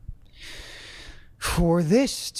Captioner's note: breathes deeply